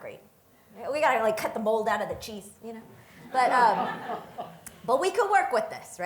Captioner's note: audience laughter